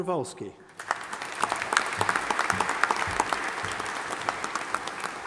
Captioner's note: audience applauding